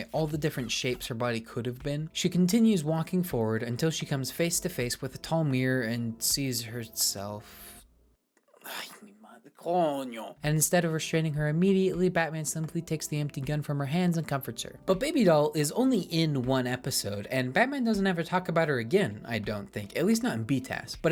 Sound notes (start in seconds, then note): 8.6 ahem; 8.6 sigh